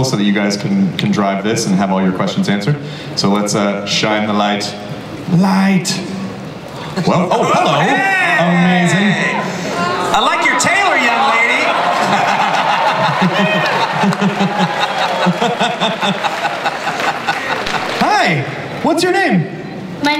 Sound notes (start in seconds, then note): 7.4 audience and panelists exclaim; 11.9 laughter